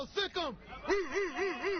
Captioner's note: laughter